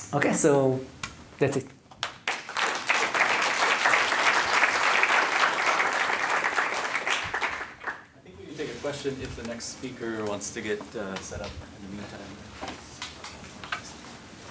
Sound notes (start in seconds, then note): 2.0 applause